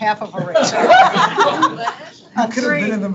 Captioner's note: board members laughing